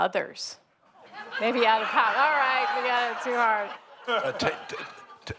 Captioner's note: laughter